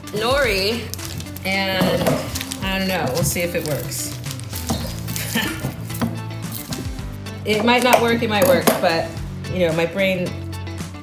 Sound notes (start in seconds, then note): 5.2 laughs